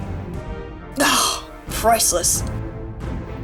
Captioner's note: sighs